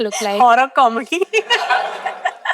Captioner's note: laughs